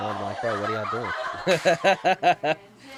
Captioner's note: laughing